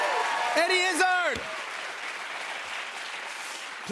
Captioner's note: cheers and applause